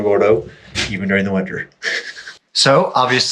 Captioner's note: chuckling